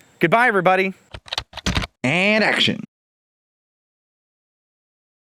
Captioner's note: typing